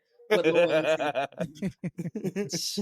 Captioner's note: laughing